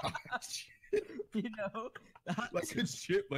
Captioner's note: laughing